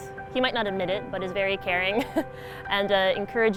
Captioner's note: laughs